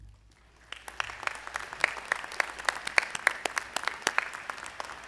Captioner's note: audience applauding